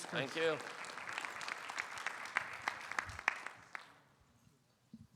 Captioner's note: audience applauding